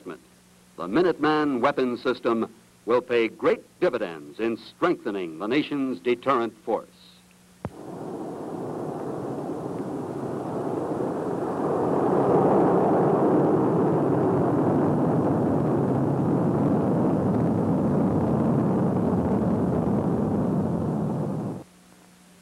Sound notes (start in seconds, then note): 11.1 roar of rocket motor